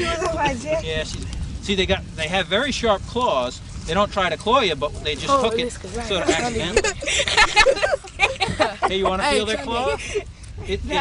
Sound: laughter

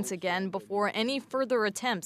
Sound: speaking French

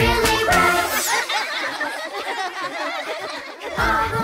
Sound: laughs

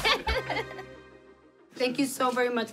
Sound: laughing

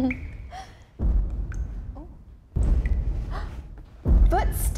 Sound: booming footsteps getting closer

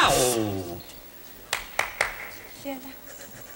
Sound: claping multiple times

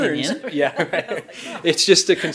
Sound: all laugh

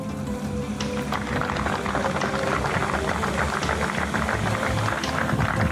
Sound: crowd applauding

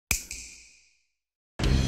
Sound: snap

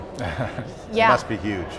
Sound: laughs

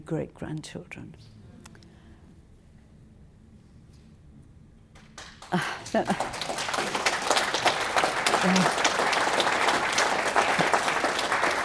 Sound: applause

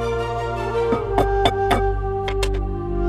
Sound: banging

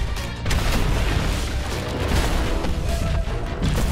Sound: booming thuds

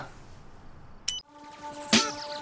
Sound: beep

